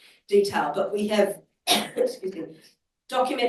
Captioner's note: coughs